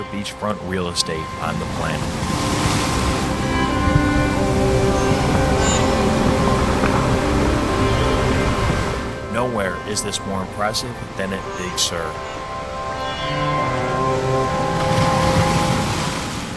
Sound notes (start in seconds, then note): 2.8 uplifting music; 13.4 big waves crashing